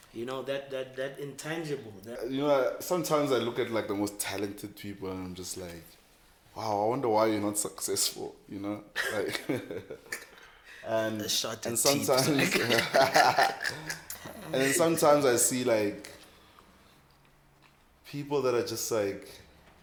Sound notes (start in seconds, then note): 8.9 laughs